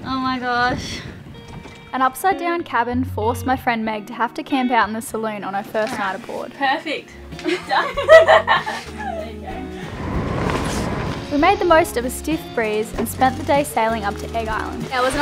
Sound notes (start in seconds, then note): 7.4 girls laughing